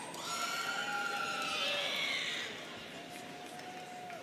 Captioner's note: students cheering